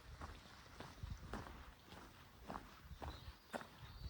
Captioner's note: footsteps